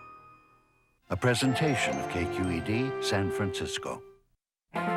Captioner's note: voiceover